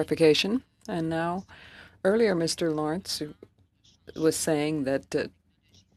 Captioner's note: speaking French